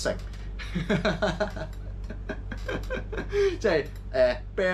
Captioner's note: manic laughter